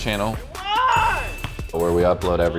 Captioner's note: screams